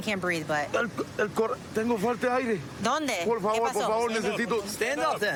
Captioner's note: speaking spanish